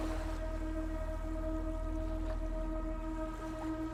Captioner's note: waves lapping